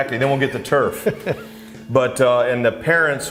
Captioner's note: laughs